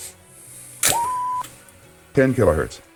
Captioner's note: beeping